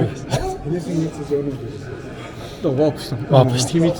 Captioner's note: laugh